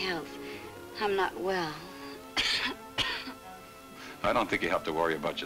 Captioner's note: coughs